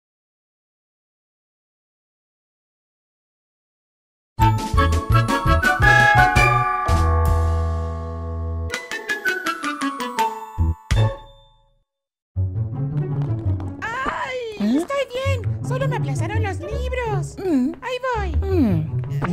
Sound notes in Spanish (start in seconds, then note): 13.0 Sonido*Objetos que caen